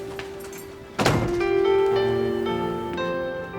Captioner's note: door thuds